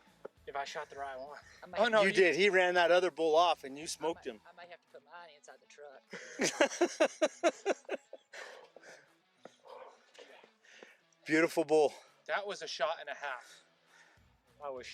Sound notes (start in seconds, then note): 6.1 laughter